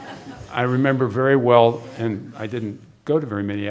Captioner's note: laughter